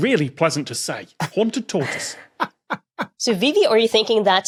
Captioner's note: cackles